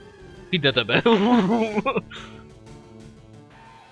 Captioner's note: brain melting sounds